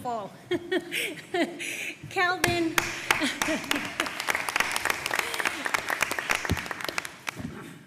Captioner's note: applause